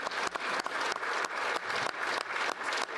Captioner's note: applause